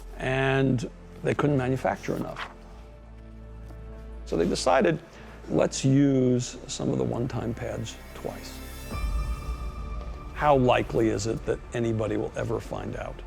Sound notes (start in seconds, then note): none